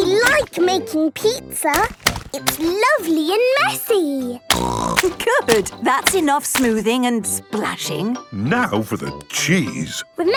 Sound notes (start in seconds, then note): none